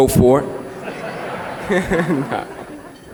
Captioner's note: laughter